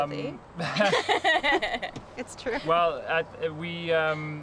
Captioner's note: laughter